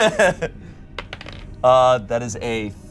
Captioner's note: all laugh; die rolls